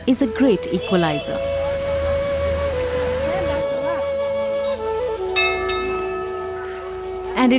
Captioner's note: gentle flute music; bell chimes